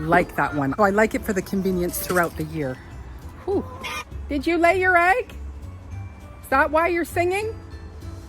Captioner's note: squawk!